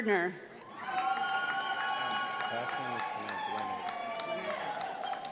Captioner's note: audience applauds